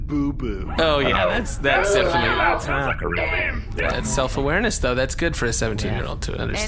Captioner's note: everyone makes dismayed noises